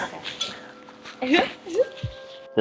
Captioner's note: whimpers